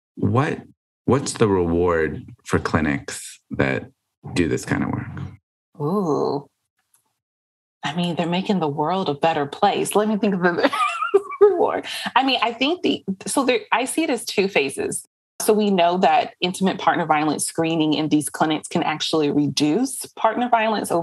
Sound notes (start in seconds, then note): 10.6 laughs